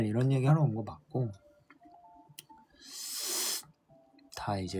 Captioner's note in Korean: 콧방귀